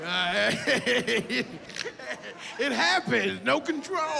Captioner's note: laughs